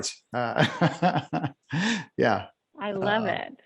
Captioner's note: laughs